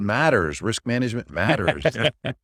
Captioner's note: laughs